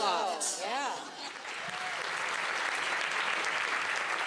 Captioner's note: audience applause